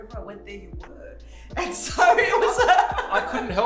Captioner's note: laughing